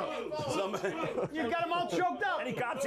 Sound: coughing

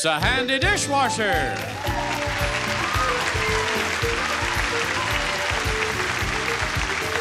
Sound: upbeat music; audience cheers and applauds

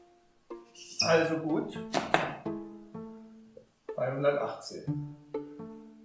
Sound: squeaking whiteboard eraser

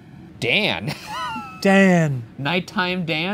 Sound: laughs

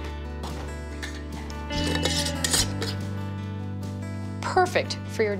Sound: jar lids spinning

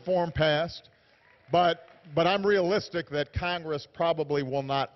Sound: applause

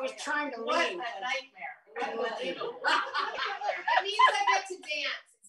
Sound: laughter

